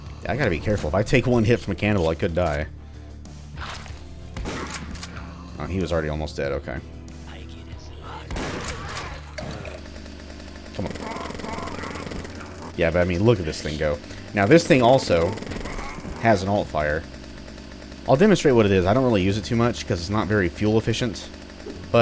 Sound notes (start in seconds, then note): 12.9 jackhammer attack